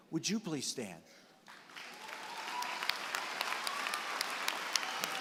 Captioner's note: applause